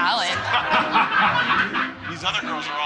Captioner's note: all laughing